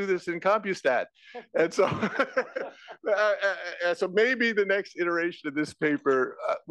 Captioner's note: laugh